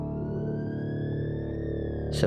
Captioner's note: siren wails